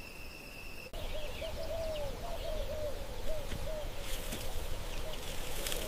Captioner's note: bird vocalizing softly